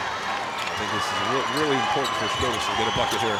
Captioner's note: quietly